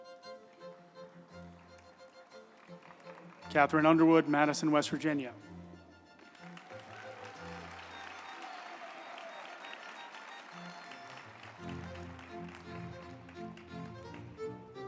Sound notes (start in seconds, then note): 6.2 group applauding; 6.8 uplifting music